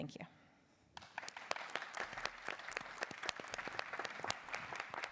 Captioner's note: applause